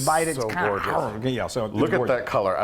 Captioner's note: biting sound